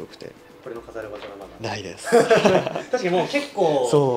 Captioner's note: laughs